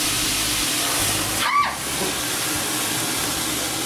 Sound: screams

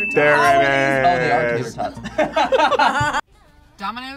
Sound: both laugh

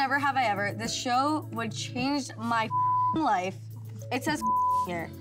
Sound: beep

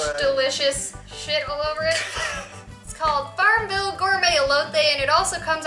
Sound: laughter

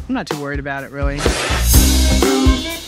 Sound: spits out drink

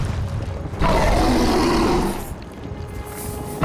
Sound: roaring

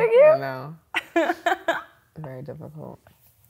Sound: laughs

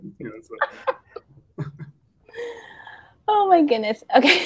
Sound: all laughing

